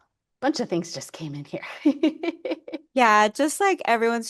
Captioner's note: laughs